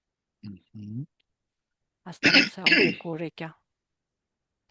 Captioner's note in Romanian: voce dreasă